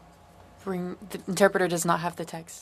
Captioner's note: speaking French